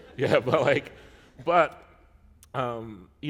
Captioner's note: chuckle